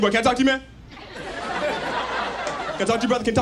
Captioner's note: audience laughs